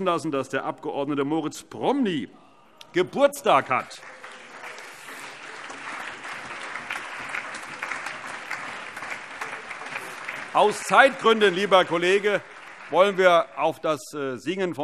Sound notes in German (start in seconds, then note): 3.2 Allgemeiner Beifall